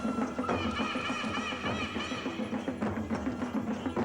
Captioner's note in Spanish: graznidos; música con tambores